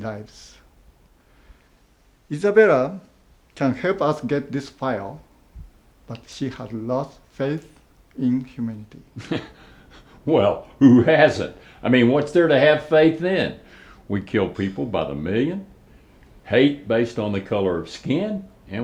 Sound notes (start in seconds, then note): 9.0 chuckles